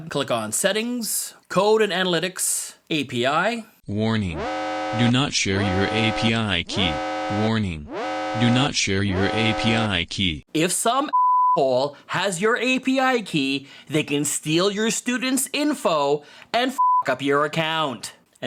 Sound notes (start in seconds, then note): 6.7 BUZZERS x5